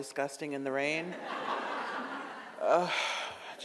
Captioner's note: audience laughs